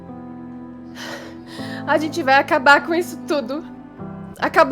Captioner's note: sigh